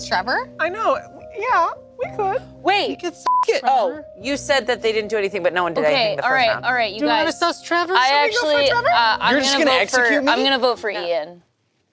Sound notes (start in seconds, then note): 3.2 beep